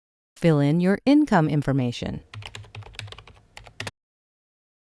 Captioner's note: typing